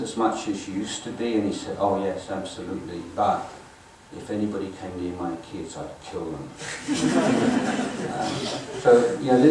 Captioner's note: audience laughing